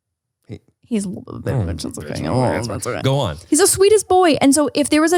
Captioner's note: murmurs